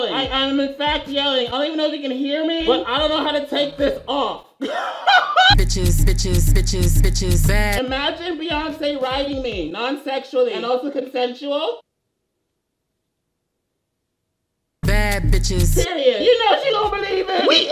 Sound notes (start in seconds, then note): 4.6 laughs